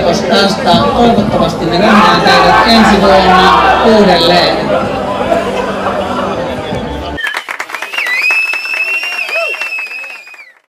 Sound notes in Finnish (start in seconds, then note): 7.2 Aplodeja